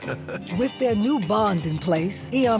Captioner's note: chuckles